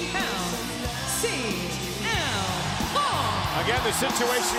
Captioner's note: crowd cheers